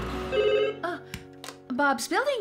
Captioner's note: phone Rings